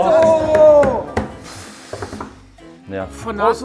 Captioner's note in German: Klopfen